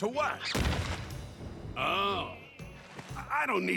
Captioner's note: crash